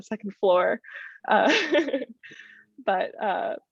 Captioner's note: laughter